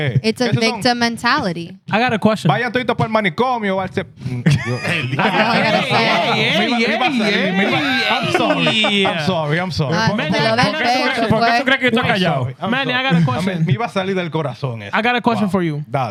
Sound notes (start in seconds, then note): 2.5 laughter; 2.5 non-english Speech; 14.9 non-english Speech